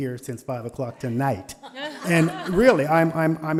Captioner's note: board laughing